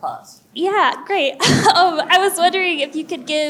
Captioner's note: chuckles